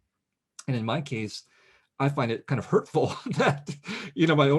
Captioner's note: laughs